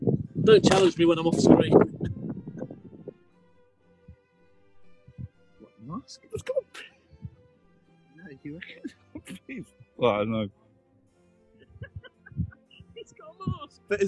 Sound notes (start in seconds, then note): 5.5 whispering; 8.5 laughing; 11.6 laughing in distance